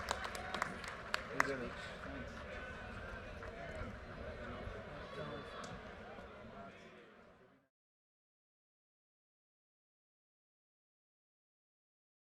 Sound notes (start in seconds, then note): 0.1 participants quietly chatting off microphone